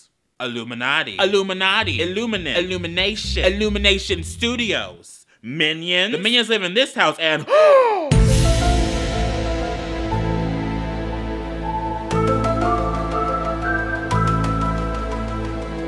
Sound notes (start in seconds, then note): 7.4 gasp; 8.1 eerie music